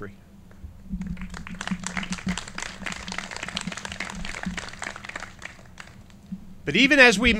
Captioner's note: clapping